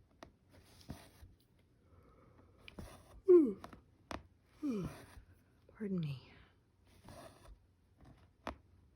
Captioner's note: yawns